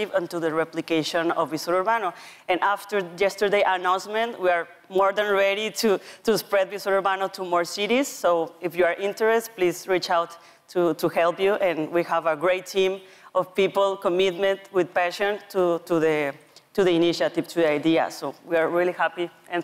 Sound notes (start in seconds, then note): none